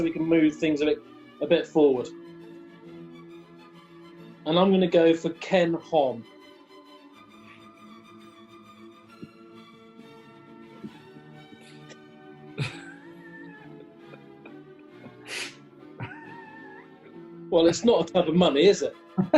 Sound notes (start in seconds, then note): 12.5 quiet giggling